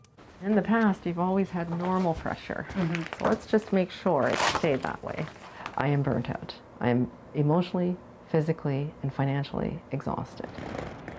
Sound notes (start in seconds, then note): none